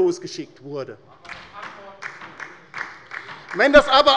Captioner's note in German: Beifall bei der LINKEN